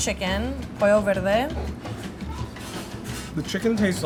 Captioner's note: speaking in Spanish